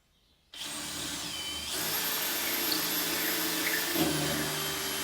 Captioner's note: drilling sound